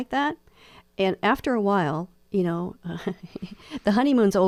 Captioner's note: laughs